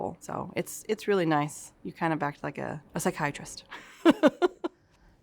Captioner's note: laughs